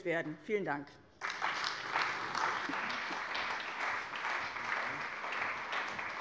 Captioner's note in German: Allgemeiner Beifall